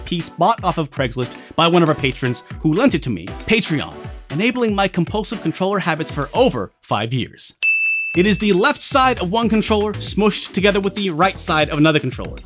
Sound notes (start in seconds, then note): 7.6 ding!